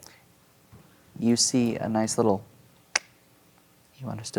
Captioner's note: clicks tongue